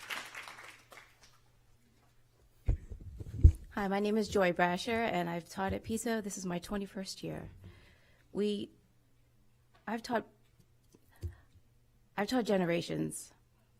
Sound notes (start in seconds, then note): 0.0 applause